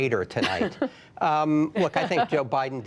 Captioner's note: laughter